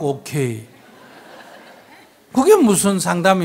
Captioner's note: audience laughs